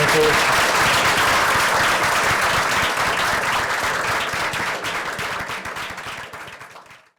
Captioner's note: applause